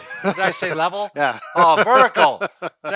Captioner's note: laughs